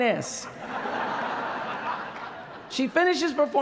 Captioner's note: laughter